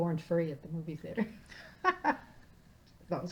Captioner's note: laughing